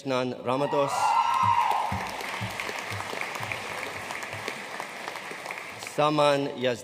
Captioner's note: audience cheering and applauding